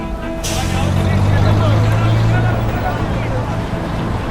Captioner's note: chattering